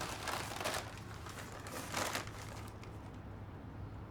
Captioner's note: paper crumbling